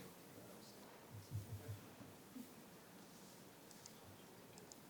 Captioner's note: people murmuring